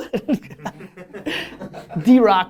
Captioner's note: laughter